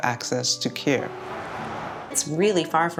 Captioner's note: car revving